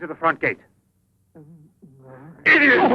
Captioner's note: Sacha jabbering